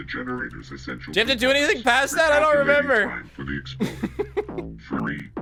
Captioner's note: laughs